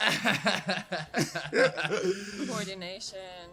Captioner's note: laughing